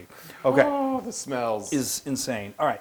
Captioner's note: laugh